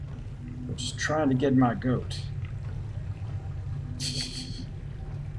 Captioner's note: tee-heeing